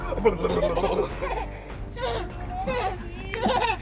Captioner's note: laughing